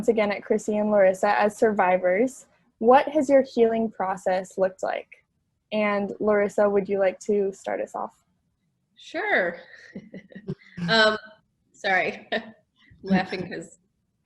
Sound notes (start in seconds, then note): 9.8 laughs